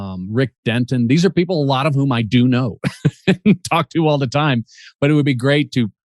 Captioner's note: chuckles